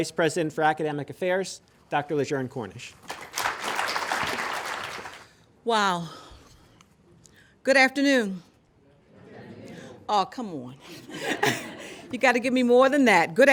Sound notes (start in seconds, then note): 3.0 applause